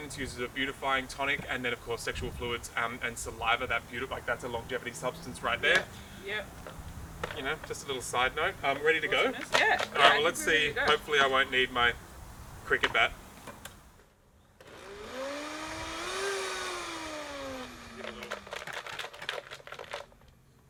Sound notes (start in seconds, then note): 14.6 whirring; 14.8 ingredients shaking